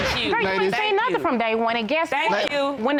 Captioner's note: gavel banging